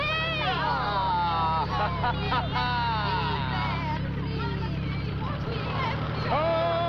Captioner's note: laughing; chattering Continues